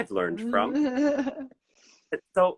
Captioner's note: laughs